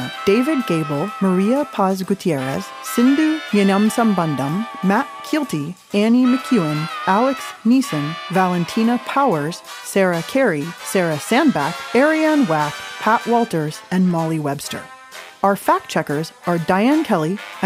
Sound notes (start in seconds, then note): none